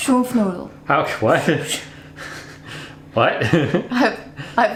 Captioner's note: laughs